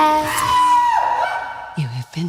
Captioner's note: man screams